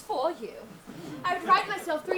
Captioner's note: audience laughs